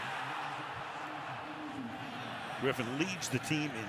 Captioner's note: pa announcement